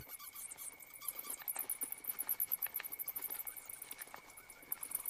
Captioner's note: soft, high-pitched squeaking